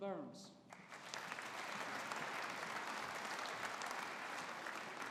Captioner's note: audience applauding